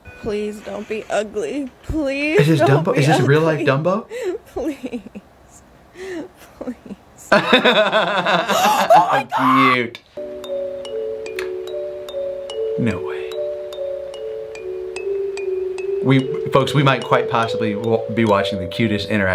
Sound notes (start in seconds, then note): 7.3 laughing; 8.5 owner gasps; 13.6 peaceful music